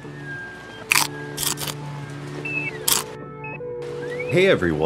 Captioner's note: bites crunching